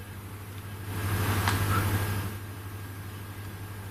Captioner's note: ghostly Voice